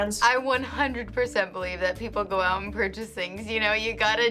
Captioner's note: none